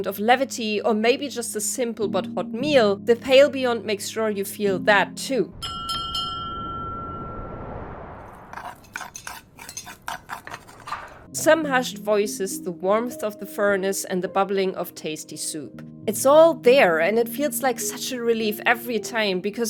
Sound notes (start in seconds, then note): 5.5 sounds of a hot meal; 5.6 bell ringing